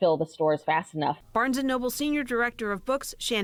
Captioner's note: voice-over